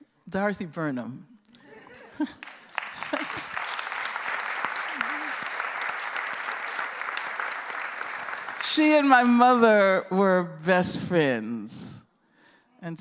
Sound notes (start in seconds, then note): 1.3 laughter; 2.3 applause